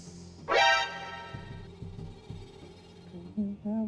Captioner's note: alarm rings